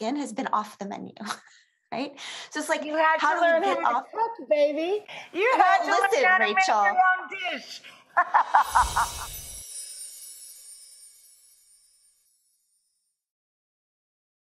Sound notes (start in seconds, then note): 1.4 laughs; 7.6 laughs; 8.5 wind chime music; 8.7 air whooshes